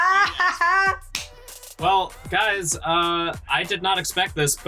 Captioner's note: laughs